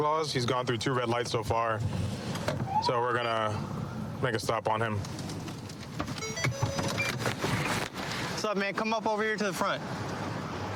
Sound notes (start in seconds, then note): 6.1 car notification bell dings